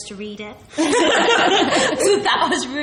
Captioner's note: laughs